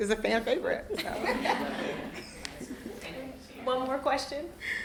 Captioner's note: all laughing